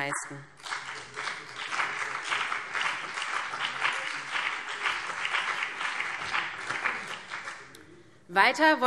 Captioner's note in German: Beifall BÜNDNIS 90/DIE GRÜNEN und vereinzelt CDU